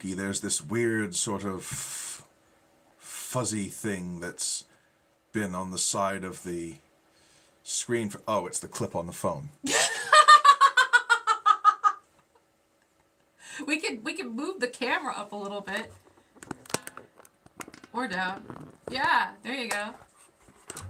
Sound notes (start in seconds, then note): 9.6 laughing